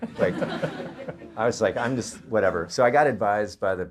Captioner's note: audience laughter